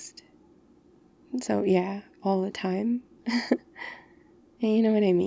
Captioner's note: laughs